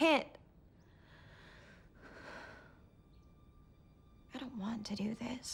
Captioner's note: takes a shaky breath, sighs